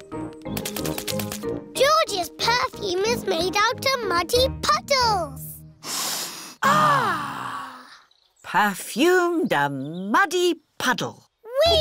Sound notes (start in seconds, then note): 5.8 all sniff